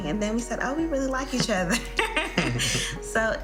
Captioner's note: laughing